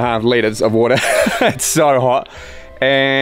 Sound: chuckles

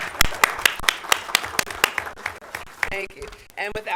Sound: clapping

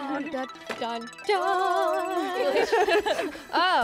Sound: laughter

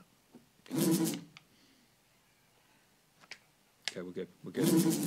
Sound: buzzing

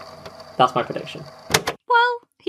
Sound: tape recorder clicks off

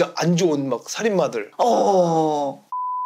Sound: grunting

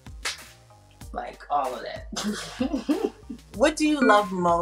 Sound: claps; chuckles

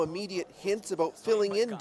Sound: speaking russian

